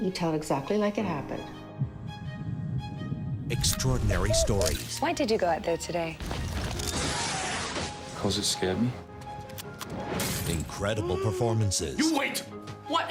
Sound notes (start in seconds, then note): 6.5 bazooka launches; 9.2 explosion